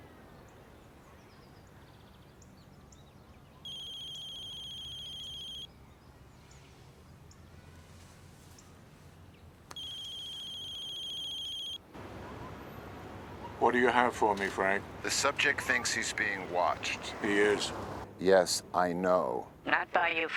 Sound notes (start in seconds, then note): 3.6 phone ringing